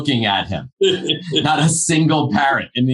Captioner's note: laughing